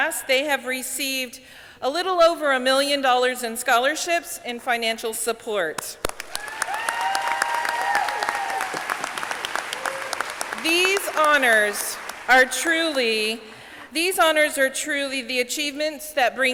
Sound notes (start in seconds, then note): 6.8 audience clapping; 8.1 audience cheering